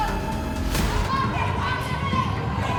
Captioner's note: yelling